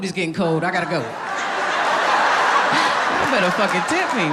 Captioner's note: audience laughing